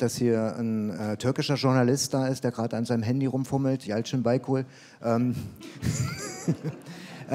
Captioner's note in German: Lachen